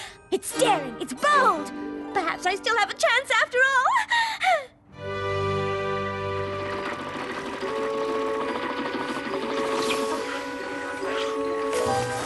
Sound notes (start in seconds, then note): 4.0 happy sigh; 6.4 humming machines